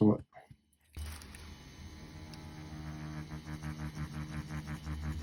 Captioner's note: machine buzzing quietly